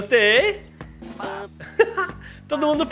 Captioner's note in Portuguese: risos